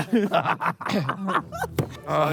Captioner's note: JJ laughs